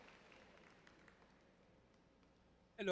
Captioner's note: audience applauding